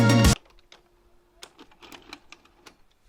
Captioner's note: music stops; tape ejected